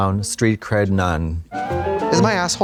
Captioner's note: bright chime